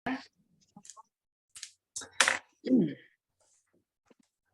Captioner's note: clears throat